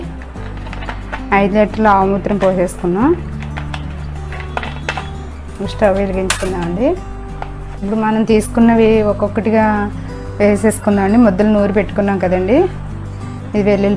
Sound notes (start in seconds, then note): 4.2 crimping